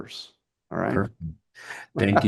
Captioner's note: laughs